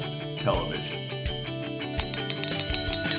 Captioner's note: bell ringing